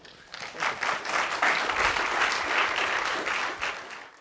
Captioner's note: audience applause